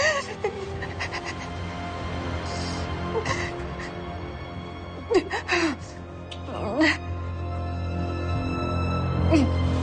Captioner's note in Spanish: Sollozos